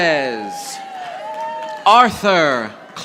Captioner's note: audience applauding